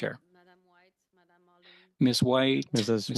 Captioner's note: speaking French